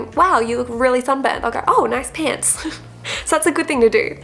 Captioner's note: laughs